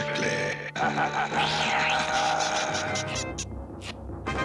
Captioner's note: evil laughter